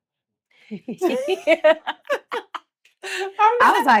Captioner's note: Blac Chyna laughs; Treasure laughs